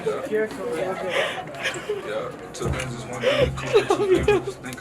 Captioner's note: sobbing